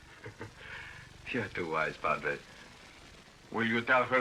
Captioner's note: laughs